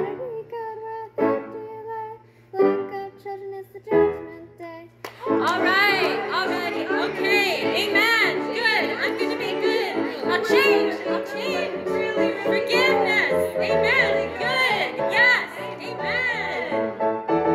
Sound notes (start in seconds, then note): 4.7 choir, spoken